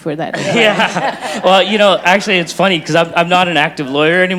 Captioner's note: laughs